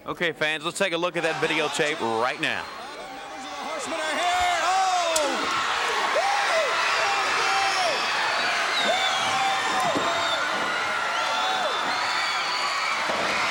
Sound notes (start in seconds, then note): 3.6 crowd cheering; 5.4 hands clapping; 7.3 blows thudding; 8.6 crowd cheering; 8.8 blows thudding; 13.3 body thudding; 13.3 crowd cheering continues